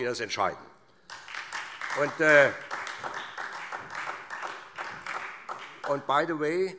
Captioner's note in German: Beifall SPD